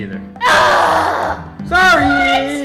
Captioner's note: sighing